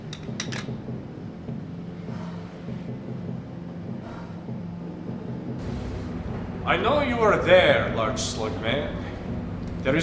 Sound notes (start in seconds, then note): 2.4 Annie heavily exhales